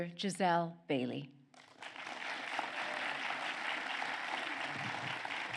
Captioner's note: applause